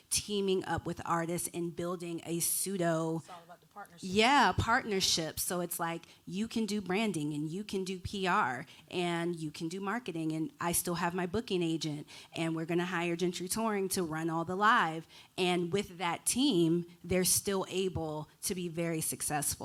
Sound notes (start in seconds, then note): none